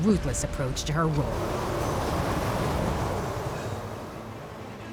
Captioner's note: whooshing